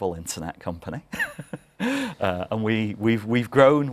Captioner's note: laugh